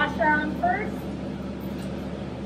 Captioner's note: screws clinking into place